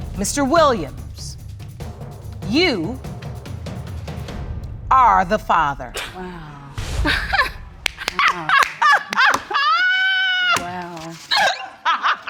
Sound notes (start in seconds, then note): 7.8 clapping and laughing; 7.9 laughs